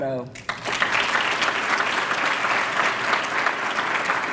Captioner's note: applause